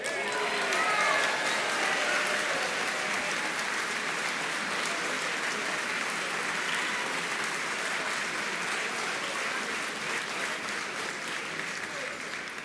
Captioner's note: applause